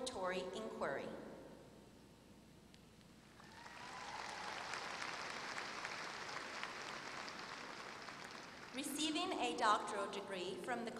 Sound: applause

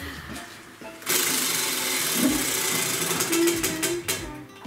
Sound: wheel spinning

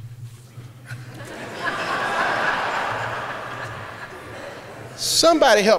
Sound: laughter

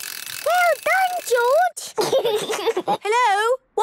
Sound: giggles

